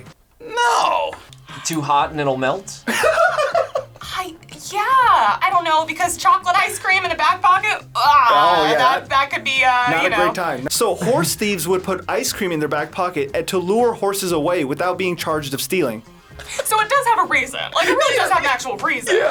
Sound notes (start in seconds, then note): 2.8 laughing